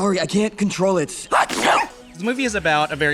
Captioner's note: sneeze-barks